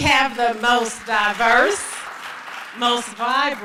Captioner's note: applause